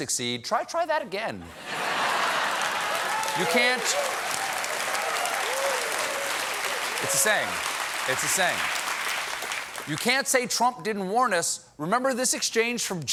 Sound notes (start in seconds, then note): 1.4 laughter; 1.6 cheers and applause